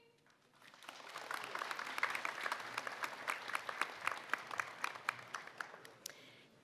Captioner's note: applause